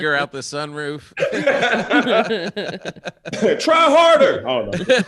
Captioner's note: all laughing